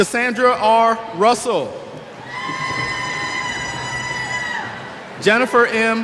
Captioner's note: cheers